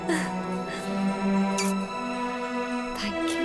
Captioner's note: Kisses